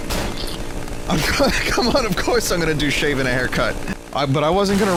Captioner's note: laughs